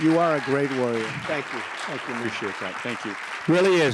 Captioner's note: applause